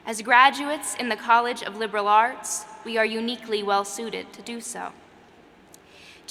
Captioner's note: none